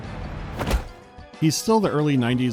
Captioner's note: thwack